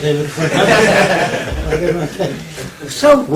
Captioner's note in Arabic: ضحك